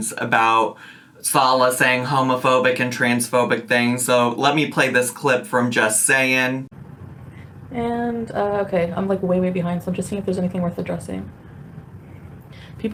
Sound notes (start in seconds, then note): none